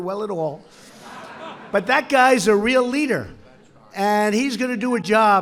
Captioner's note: laughter